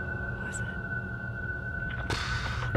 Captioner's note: whispering